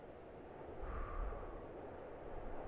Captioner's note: exhales gently